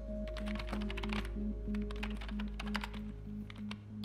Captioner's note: keyboard clacking